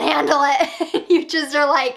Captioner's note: laughing